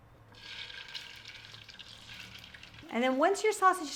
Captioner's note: sizzling